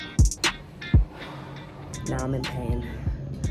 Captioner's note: exhaling sharply